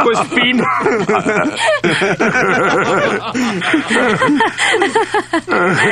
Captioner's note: all laughing